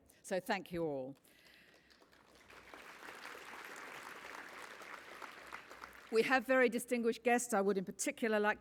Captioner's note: applause